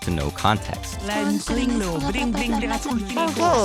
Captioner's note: speaking tongues